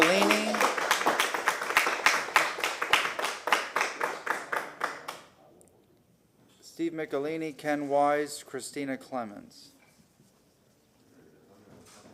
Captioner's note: applause